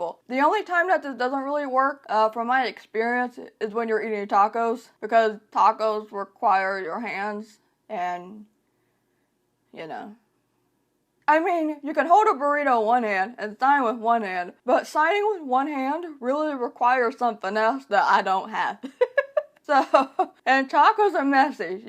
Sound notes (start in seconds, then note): 18.9 laughs